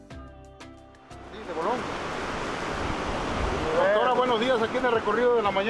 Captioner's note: men speaking in foreign language